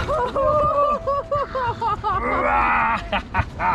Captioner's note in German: lacht; brüllt; brüllt und lacht